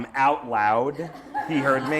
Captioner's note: laughter